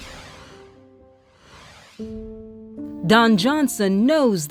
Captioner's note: screen whooshing